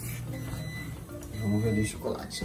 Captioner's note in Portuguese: microondas apitando